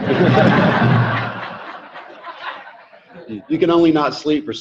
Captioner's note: audience laughing